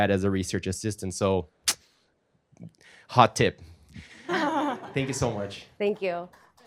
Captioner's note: audience laughing